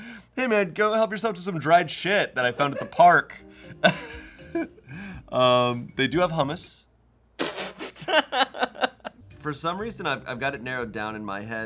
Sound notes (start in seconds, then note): 3.8 laughs; 7.5 laughs